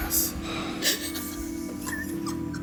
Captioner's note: laughing